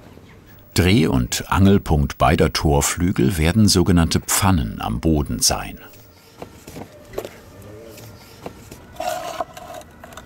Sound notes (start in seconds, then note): 5.9 distant siren, traffic noise